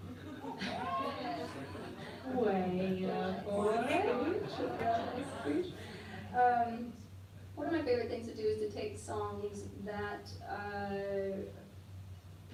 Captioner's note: laughter